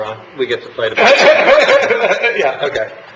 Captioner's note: laughing